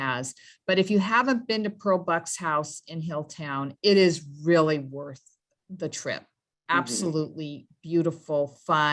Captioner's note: hums in agreement